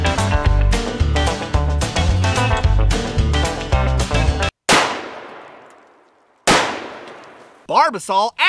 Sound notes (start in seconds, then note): 4.8 gun fires